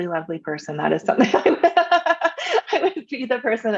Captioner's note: laughs